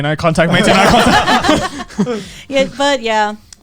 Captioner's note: all laughing